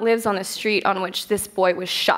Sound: none

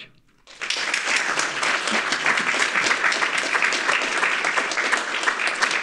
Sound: audience applauding

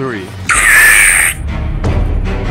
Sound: screaming

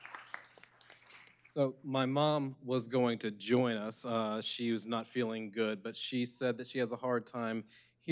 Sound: applause

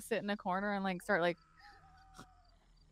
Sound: snorts; muttering

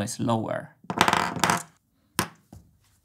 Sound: marbles rattling on the table

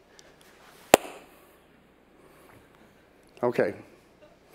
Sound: claps hands

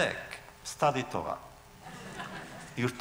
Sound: laughter

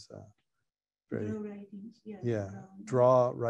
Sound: woman's Voice

